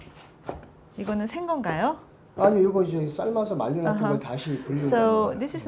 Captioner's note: speaking Korean